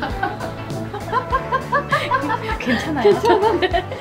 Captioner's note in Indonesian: tertawa